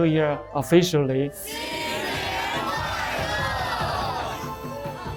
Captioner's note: group speaking in Mandarin; lively music